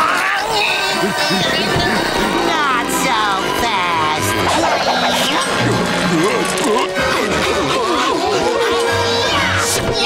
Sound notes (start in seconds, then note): 0.2 grunting; 4.2 grunting